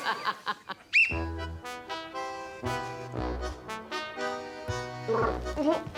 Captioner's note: all laughing; whistle blows; upbeat music; gargles, chuckles